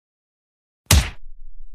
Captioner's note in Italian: FX - Punch